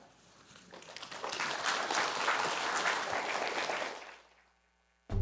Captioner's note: audience applauding